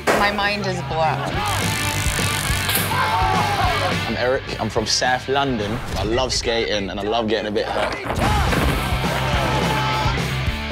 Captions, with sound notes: My mind is blown. [electricity crackling] [laughing] Oh! I'm Eric. I'm from South London. I love skating and I love getting a bit hurt. Ooh!